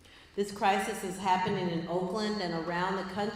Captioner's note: none